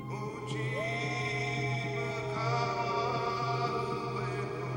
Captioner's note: wolves howling